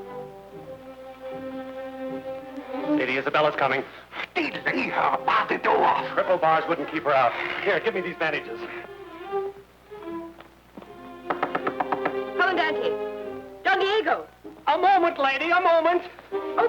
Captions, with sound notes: Lady Isabella's coming. - Delay her! Bar the door! - Triple bars wouldn't keep her out. Here, give me these bandages. (Isabella knocking) - Commandante! Don Diego! - A moment, Lady, a moment!